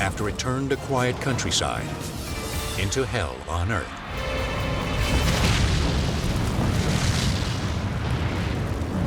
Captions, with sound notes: after it turned a quiet countryside into hell on earth. (fuel explodes)